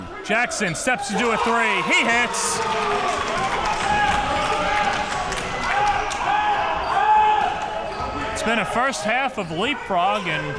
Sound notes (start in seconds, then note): 1.3 crowd clapping